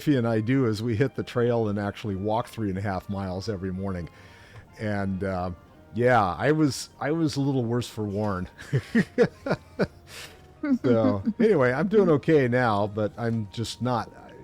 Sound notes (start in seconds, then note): 8.5 laughter